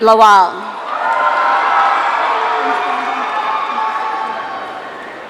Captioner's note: audience cheering